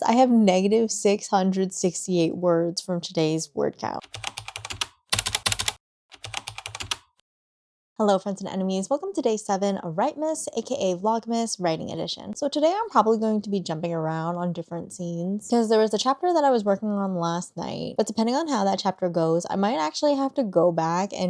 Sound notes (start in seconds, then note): 4.0 typing